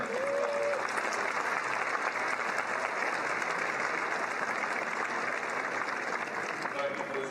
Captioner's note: cheering and Applause